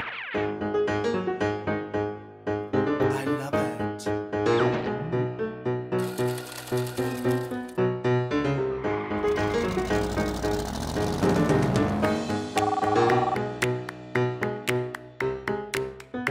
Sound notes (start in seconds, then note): 0.4 theme music; 8.8 screeching tires